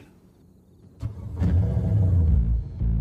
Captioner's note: revving engine